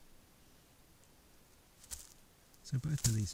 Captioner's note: kākāpō footstep